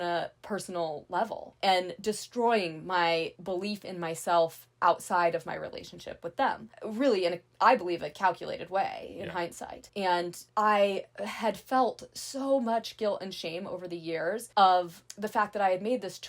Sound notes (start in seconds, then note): none